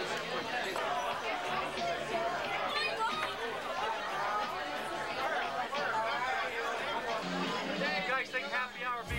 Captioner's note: crowd chatter